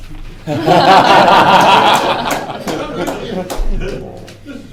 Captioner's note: laughter